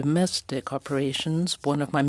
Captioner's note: speaking French